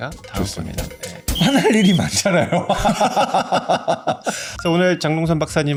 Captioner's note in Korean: 웃음